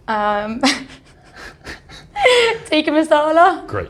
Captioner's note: laughs